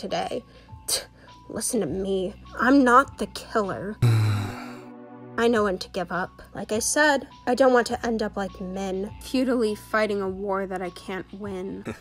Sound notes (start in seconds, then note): 4.0 sigh